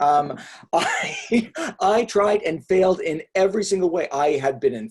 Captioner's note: laughs